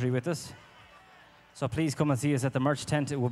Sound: audience cheering

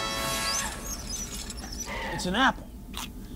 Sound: chair wheels squeak

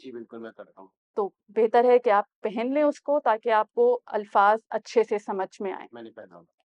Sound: in Urdu

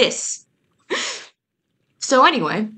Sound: wheezes

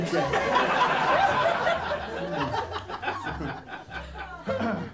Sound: laughter

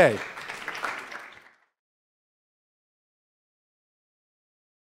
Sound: audience applauds

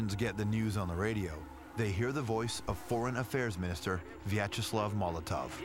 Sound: russian dialogue

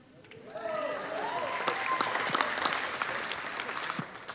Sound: audience applauding

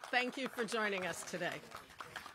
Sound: applause

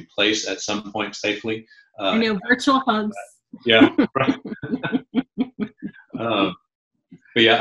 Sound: chuckling

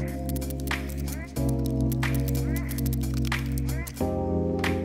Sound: sped up sounds of nailing cove kit into place

